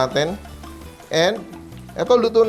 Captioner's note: sizzle